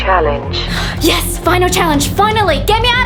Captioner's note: gasps